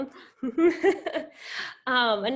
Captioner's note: laughing